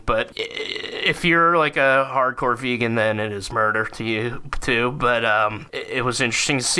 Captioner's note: stammering